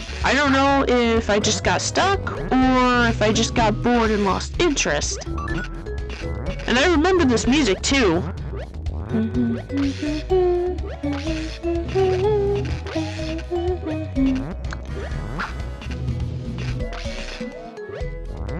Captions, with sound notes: I don't know if I just got stuck or if I just got bored and lost interest. And I remember this music too. [Humming]